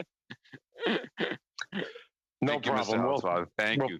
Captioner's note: laughter